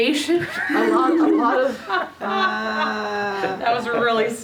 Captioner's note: laughing